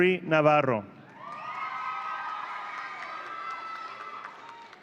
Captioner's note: audience cheering